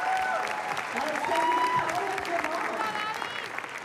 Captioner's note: cheers